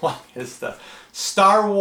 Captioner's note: chuckles